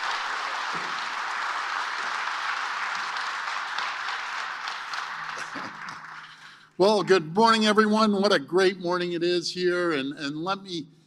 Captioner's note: cheering